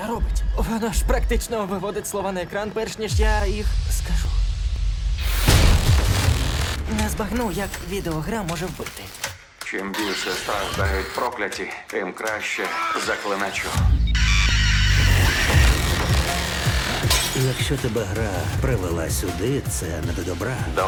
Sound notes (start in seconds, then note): 5.3 disturbing music playing; 14.2 screaming; 14.2 screams; 15.1 dramatic electronic music